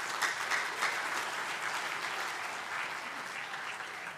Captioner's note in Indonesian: tepuk tangan